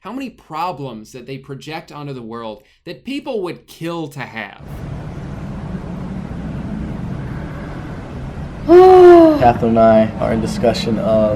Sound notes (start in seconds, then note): 8.6 sighs